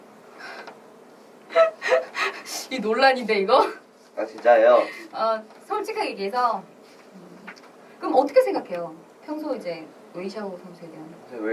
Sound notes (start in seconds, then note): 1.5 laughs